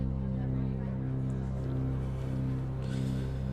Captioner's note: tense music continues; students chattering; Jack breathes heavily